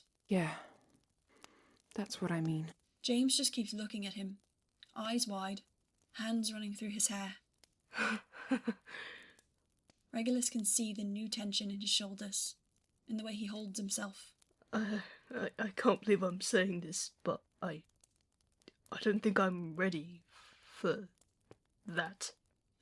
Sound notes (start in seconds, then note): 8.3 James laughs